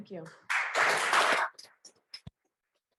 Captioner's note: applause